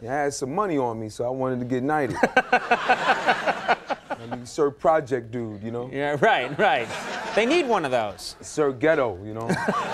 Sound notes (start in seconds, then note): 2.1 audience laughing; 9.4 audience laughing